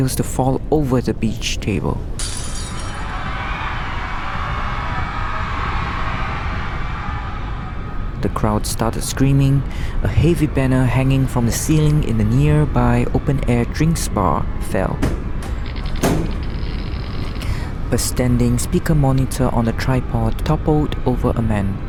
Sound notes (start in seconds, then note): 2.9 crowd in panic